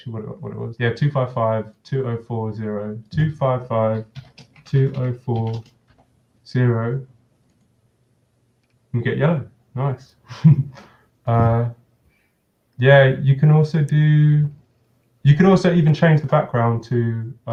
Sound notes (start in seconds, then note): 10.2 chuckles